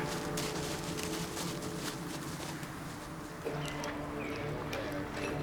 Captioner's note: grunts; hoofbeats; chattering